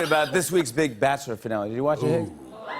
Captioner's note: audience ohs